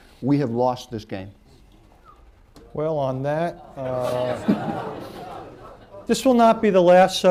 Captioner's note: laughter